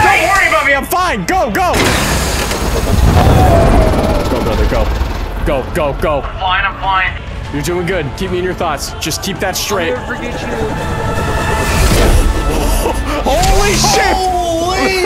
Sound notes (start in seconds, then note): 2.0 'nother nyoom; 12.4 excited milkbag noises